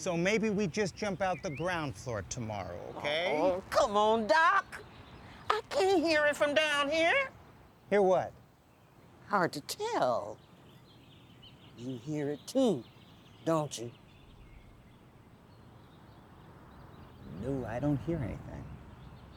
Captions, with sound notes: So maybe we just jump out the ground floor tomorrow, okay? - Oh, come on, Doc! I can't hear it from down here. - Hear what? - Hard to tell. You hear it too, don't you? (birds chirping) - No, I don't hear anything.